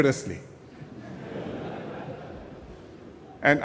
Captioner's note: laughter